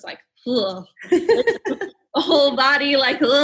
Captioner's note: laughing